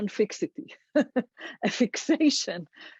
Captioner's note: laughs